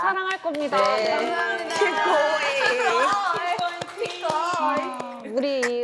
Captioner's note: 박수